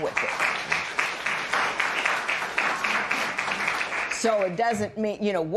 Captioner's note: applause